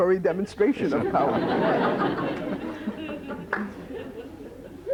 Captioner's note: laughter